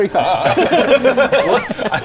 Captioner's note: futile laughter